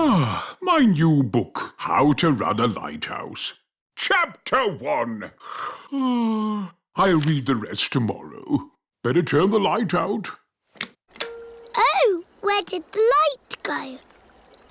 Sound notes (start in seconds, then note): 5.6 yawns